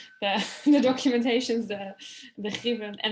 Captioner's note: chuckling